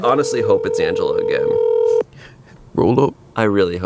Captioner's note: phone rings